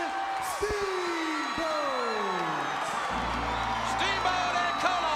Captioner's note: audience cheering